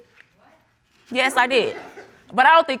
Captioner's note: audience chuckles